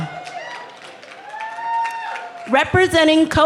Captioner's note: cheering